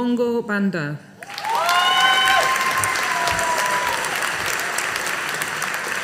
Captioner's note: audience applauding